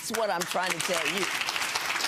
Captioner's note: audience clapping